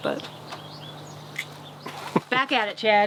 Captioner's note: clicks tongue